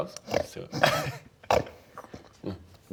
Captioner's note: grunt